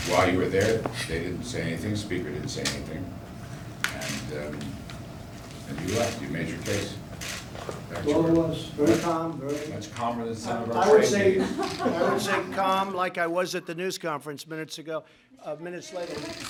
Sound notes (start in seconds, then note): 11.2 laughter